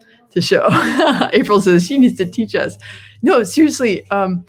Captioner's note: laughs